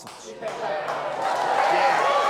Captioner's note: crowd cheering